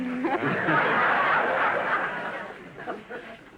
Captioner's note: audience laughter